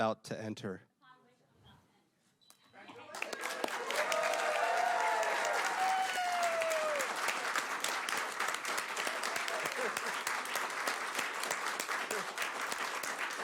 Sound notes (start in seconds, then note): 10.9 applause